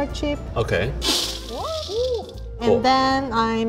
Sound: chocolate clatters on metal bowl

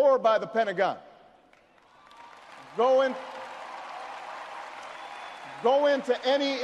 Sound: audience cheers and applauds

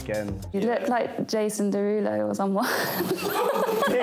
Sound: laughs

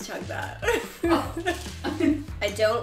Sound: laughs; producer laughs

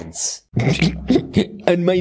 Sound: Jeff snickering

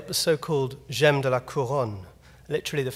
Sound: speaking in foreign language

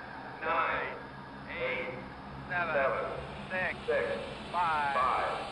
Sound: rocket countdown and launch

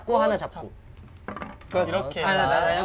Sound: crash

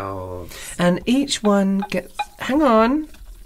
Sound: tap, Tap, Tap

